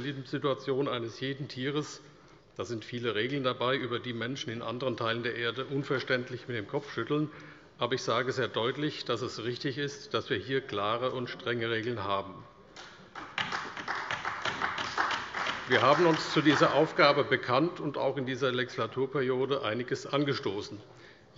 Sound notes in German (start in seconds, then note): 12.8 Beifall bei der CDU